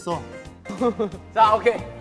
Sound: kekekekeke

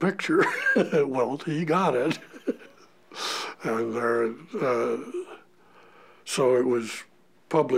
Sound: chuckle

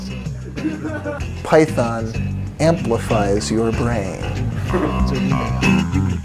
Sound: laugh

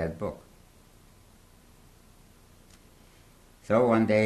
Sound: pauses for 3 seconds

